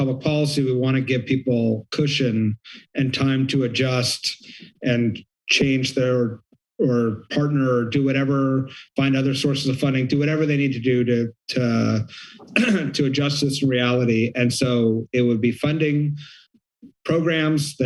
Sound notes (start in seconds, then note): 11.9 clears throat